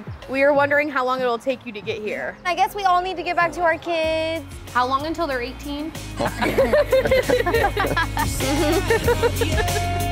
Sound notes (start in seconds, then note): 4.5 upbeat music playing; 6.1 all laughing